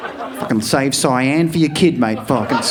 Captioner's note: audience laughing